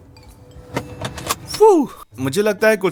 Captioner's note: seatbelt clicking